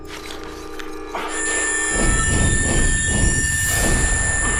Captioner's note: tone droning